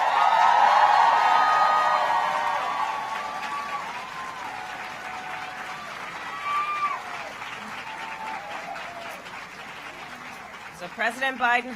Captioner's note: applause